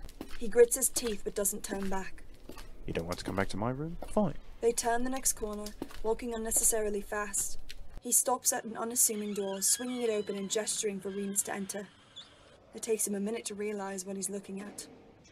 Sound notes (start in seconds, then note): 9.1 door creak